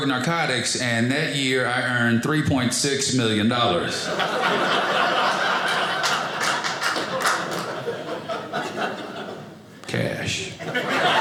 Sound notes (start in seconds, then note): 3.8 audience laughing; 5.3 audience applauding